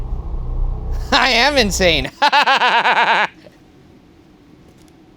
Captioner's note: laughing